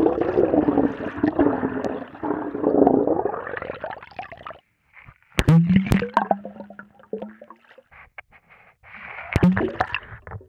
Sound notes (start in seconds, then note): none